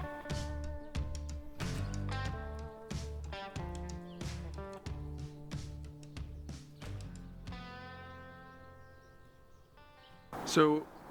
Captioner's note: birds chirping